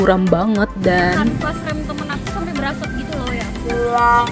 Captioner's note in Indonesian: motor